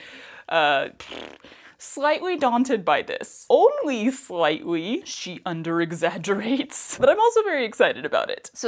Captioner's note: mouth fart